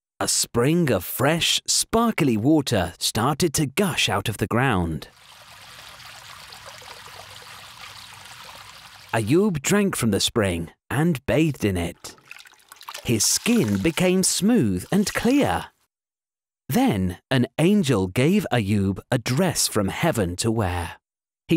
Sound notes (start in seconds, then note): 5.1 water bubbling